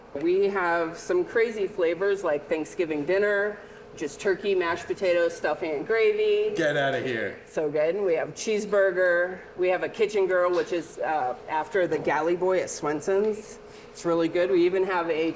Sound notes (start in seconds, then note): none